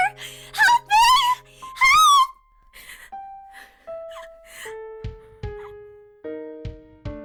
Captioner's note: sobs